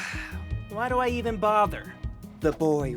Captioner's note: sigh